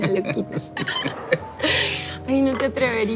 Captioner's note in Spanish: Risas